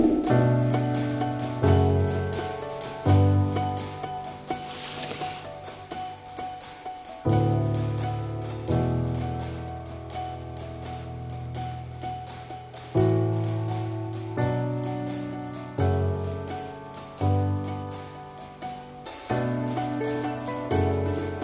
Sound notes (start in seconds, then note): 0.1 light suspenseful music; 4.3 scraping